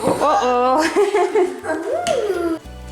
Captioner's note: laughs